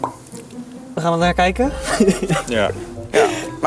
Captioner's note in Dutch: lacht